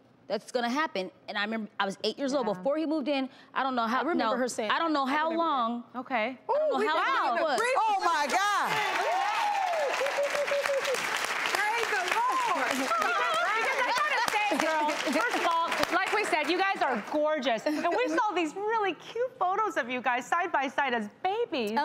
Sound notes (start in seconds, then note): 8.9 audience applauding